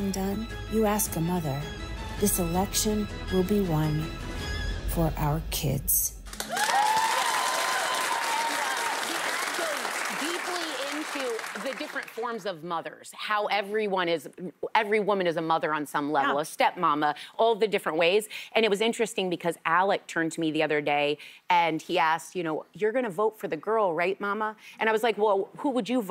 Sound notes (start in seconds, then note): 9.7 cheers and applause